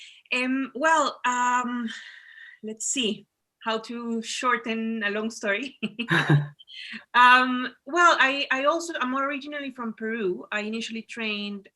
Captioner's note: chuckles